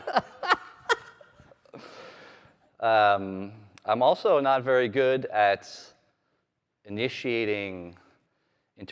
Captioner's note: laughter; laughter